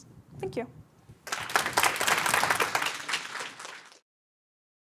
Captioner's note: audience applauding